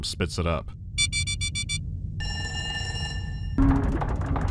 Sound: bee-bee-bee-beep, ring

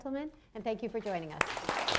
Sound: applause

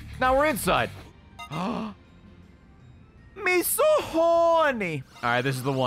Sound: gasps

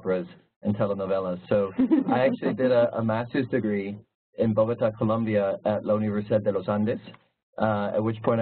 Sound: laugh

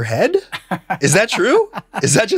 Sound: chuckles

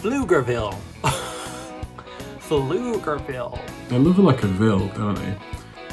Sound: laughs

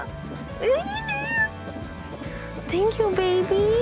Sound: Chelsea squealing

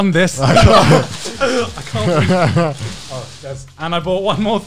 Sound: laughing

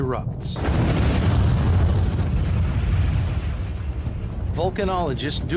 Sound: eruption rumbling

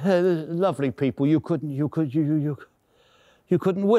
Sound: stammering

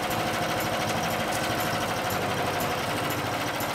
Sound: motor idles

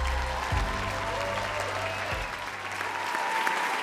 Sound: audience cheers

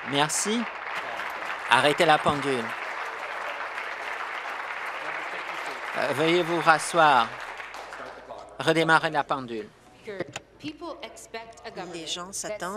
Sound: applause

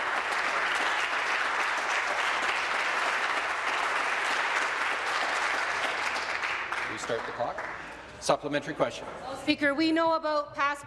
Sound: applause

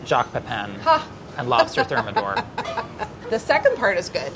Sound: laughs

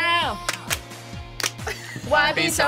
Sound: both clap

